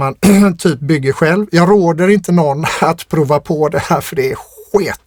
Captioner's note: clears throat